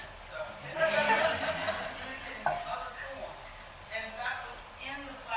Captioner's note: murmuring; laughing